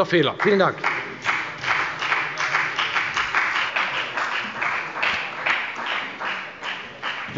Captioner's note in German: Beifall bei der FDP